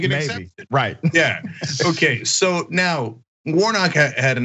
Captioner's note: laugh